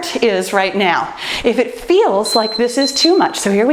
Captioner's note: timer beeps